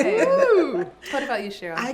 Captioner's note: laughs